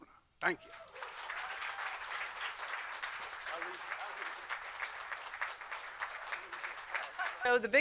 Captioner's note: applause